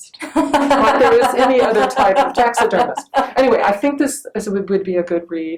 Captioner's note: laughing